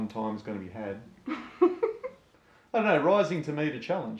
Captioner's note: laughs